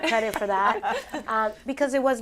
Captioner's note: laughter